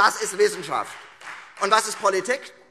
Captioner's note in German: Beifall Freie Demokraten